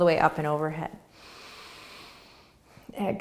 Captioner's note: inhaling